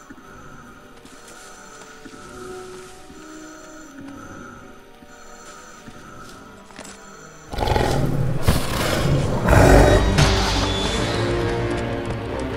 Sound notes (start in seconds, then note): 7.5 growl